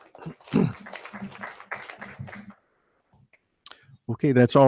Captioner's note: audience applauding